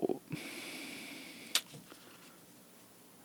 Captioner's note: sigh